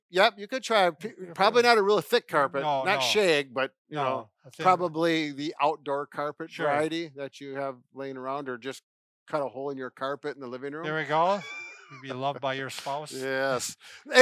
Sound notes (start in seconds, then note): 10.9 laughs